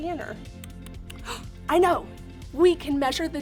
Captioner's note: gasps